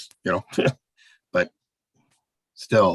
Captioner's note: chuckling